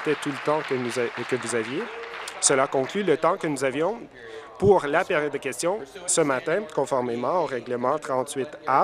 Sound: applause

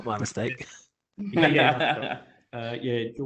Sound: laughter

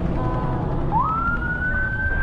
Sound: police siren

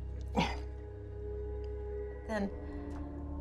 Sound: Jeff grunts

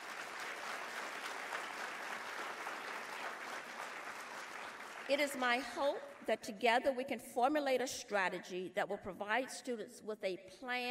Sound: applause

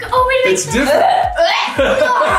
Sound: laughing; gagging

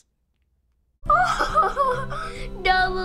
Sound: laughing

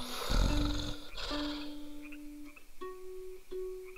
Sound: snoring

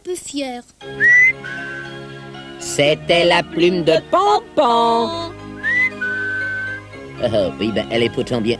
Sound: ils sifflent

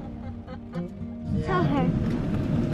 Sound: laughing

